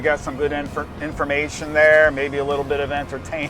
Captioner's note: laughing